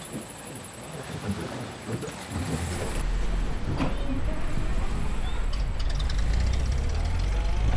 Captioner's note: engine revving